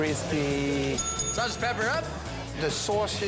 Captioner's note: bell dings